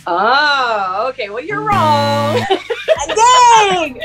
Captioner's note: buzzer; women laugh